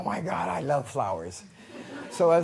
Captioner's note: laughter